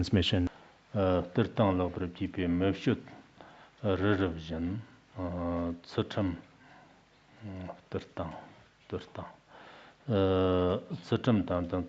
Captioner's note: giving oral transmission in Tibetan